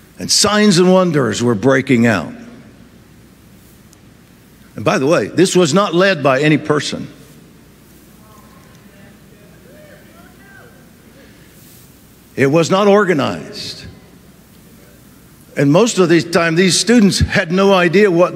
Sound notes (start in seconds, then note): 9.6 audience cheers